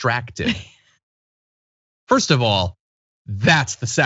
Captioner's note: laugh